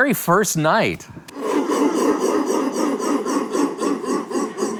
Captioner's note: audience chanting